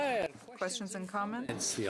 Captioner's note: speaking French